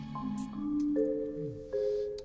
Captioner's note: sniffs